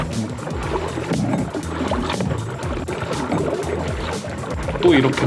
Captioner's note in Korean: 우당탕탕